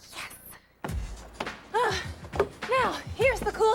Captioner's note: gasping